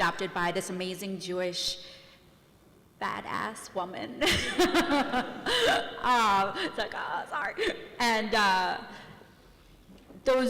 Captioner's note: laughs